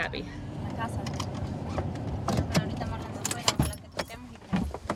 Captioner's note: speaking in foreign language